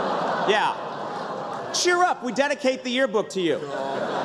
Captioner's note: laughter